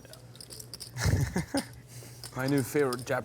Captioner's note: chuckles